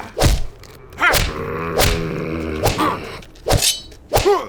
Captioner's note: Moses growling; blade unsheathing